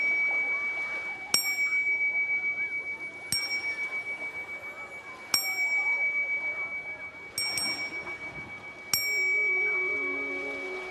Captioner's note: ringing bell